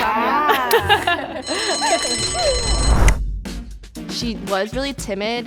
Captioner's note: bell rings